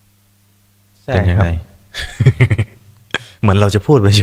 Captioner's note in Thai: เสียงหัวเราะ